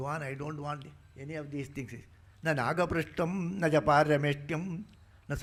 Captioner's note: speaking in Sanskrit